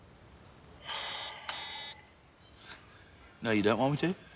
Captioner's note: beeps twice